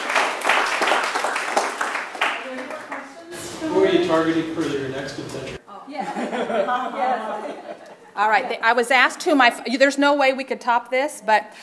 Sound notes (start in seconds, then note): 1.7 applause